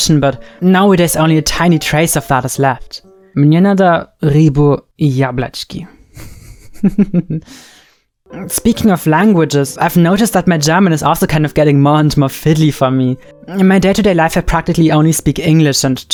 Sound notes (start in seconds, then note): 3.5 speaking Russian; 6.1 chuckles